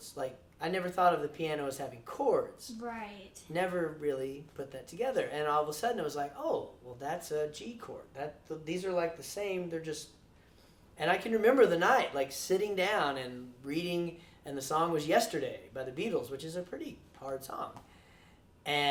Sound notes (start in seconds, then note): none